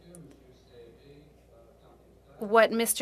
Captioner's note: speaking French